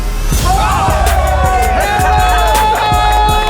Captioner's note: cheering